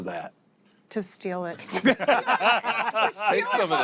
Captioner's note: laughter